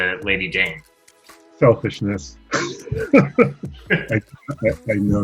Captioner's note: laughter